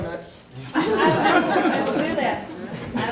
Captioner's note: all laughing